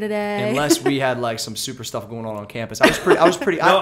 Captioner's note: laughs; laughter